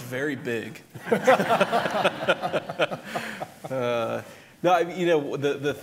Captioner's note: laughter